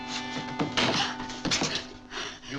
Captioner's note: woman gasps